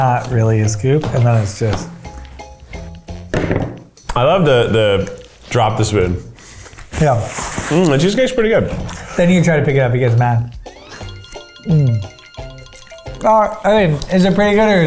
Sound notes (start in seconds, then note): 3.3 spoon thuds